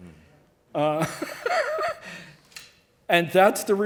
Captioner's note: laughing